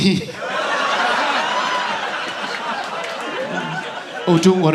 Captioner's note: audience laughing